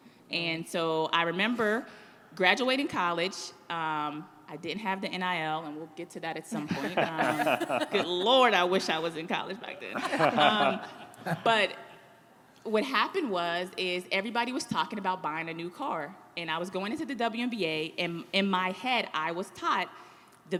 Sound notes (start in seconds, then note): 9.8 guests laughing